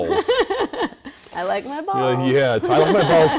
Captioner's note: laughing